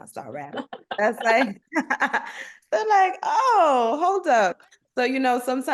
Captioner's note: laughter